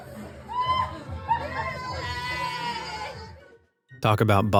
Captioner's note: friends cheering